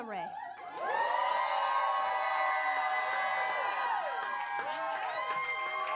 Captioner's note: audience clapping and cheering